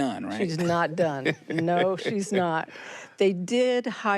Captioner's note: laughs